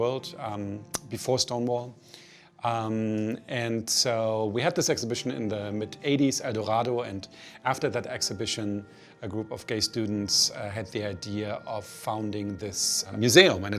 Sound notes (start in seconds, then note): none